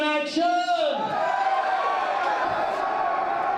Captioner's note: shouting/cheering